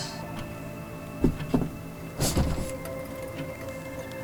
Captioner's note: sounds of office, copier, typing, phones ringing